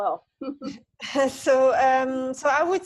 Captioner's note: laughing